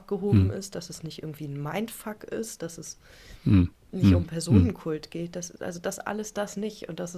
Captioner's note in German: räuspern